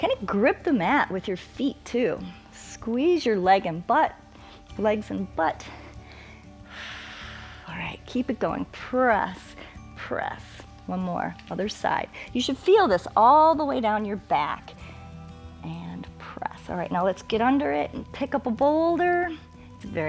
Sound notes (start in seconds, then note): 5.7 exhales